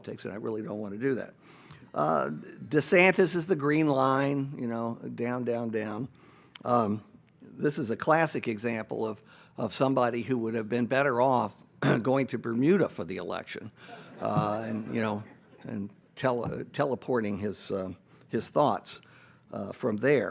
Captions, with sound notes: and I really don't wanna do that. DeSantis is the green line, you know, down, down, down. This is a classic example of somebody who would've been better off going to Bermuda for the election. (audience laughs) And, you know, and teleporting his thoughts from there.